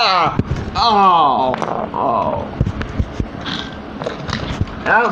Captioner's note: groaning; in New York Accent